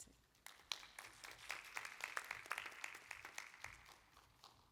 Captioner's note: applause